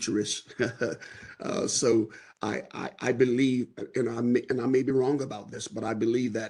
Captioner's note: laughter